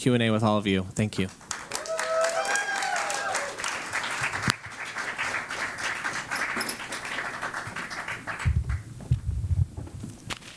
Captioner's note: applause